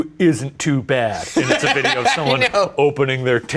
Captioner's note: laughing